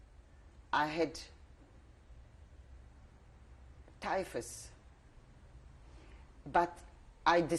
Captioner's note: pauses for 3 seconds